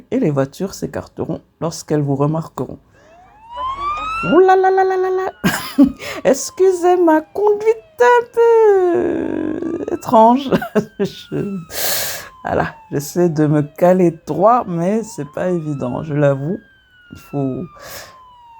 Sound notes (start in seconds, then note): 10.2 laughs